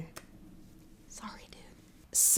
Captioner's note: whispers